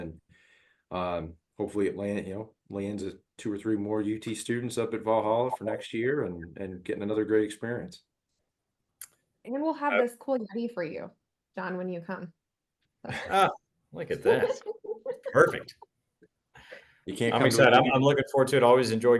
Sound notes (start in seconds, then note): 14.1 laugh